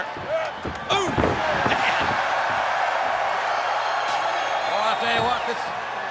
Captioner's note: crowd cheers; body thuds